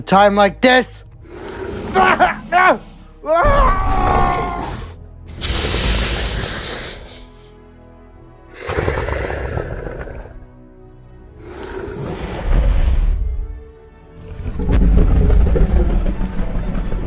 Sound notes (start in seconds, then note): 5.4 Indominus chomping sounds and low growl; 11.8 stomping sounds; 16.8 Indominus Low Rumbles